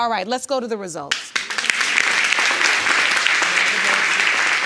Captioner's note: audience applauding